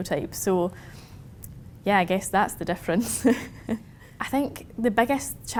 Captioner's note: chuckles